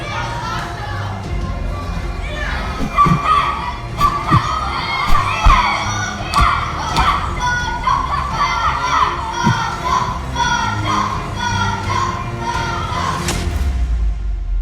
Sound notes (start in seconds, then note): 0.1 children chattering; 2.7 Sasha grunts